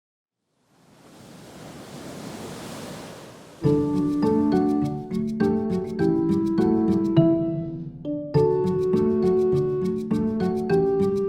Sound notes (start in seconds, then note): 0.5 wind sound